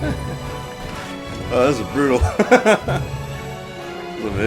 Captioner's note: laughs